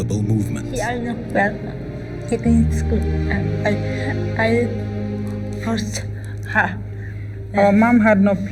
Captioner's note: speaking English